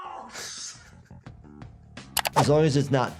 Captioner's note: Anthony laughing